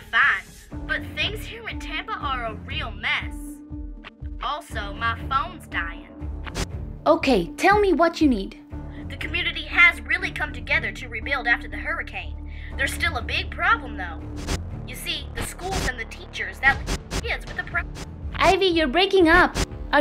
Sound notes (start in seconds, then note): 14.4 phone garbles